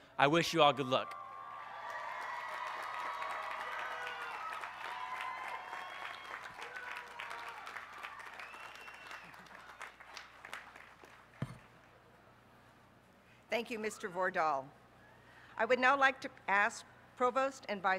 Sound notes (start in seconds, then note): 4.9 applause